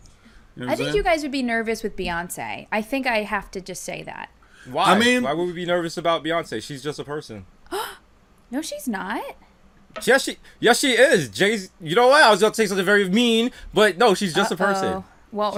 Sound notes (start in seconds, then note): 8.0 gasping